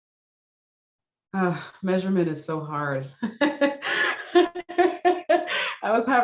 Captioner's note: laughs